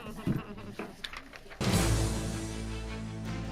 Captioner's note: chuckling; gavel banging; investigative music